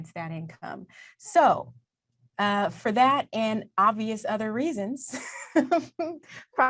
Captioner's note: laughs